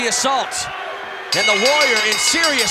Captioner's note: bell ringing